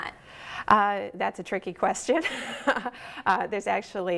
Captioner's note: laughing